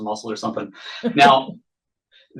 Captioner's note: laughs